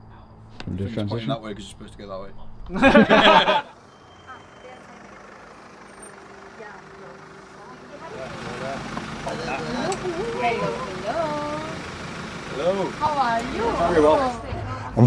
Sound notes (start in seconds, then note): 2.7 everyone laughs